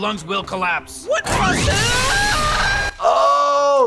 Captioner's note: screams